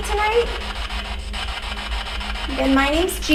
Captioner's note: static buzzing